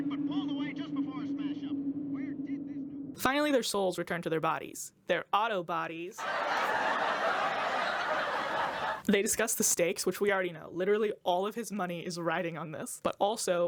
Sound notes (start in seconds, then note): 6.2 canned laughter